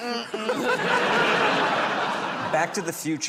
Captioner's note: laughter